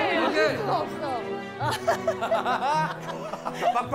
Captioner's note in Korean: 웃음소리